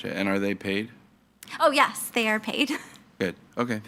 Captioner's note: chuckles